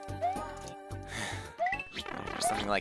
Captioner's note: sigh